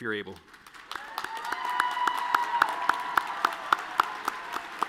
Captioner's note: all cheering and clapping